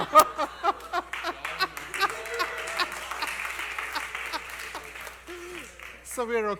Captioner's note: laughter and Applause